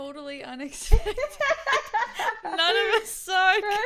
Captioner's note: laughs